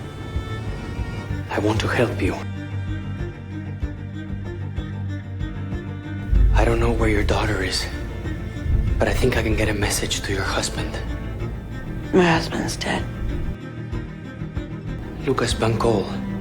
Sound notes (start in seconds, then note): 12.3 voiceover